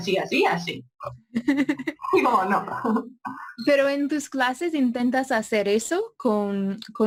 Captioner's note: laugh